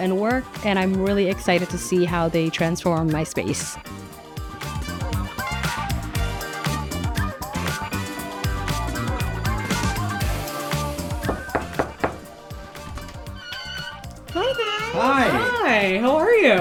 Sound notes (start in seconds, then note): 5.5 upbeat music continues; 11.2 hand knocking